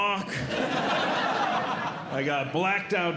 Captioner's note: audience Laughing